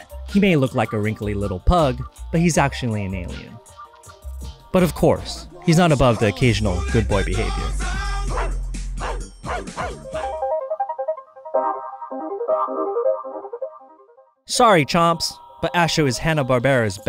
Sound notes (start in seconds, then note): 9.0 barking; 10.3 upbeat music